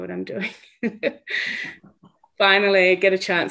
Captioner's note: laughs